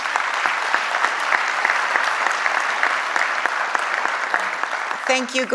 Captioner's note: applause